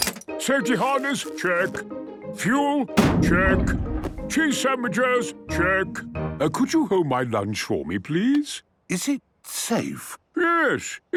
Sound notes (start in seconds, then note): 3.0 bangs